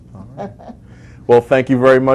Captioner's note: laughs